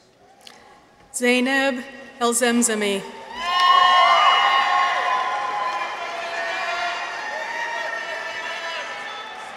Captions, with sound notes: Zenab Elzamzamy. -(people cheer) -(audience applauds)